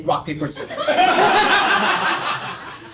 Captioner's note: laughter